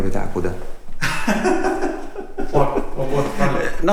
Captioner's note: laughing